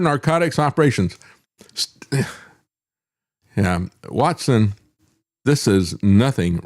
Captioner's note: scoffs